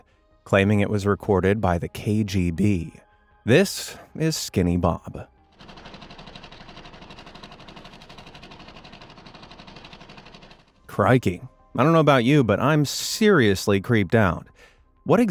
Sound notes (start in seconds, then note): 5.5 film projector whirring